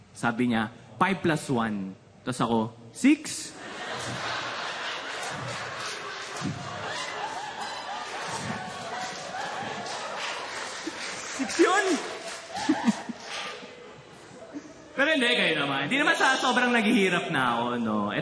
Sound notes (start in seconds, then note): 3.6 laughter, applause; 12.2 chuckles